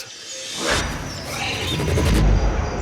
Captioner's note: squeals